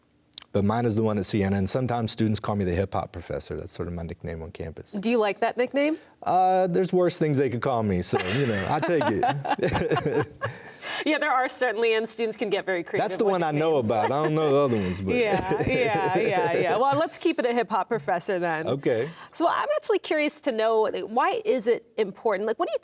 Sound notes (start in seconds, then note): 8.1 laughing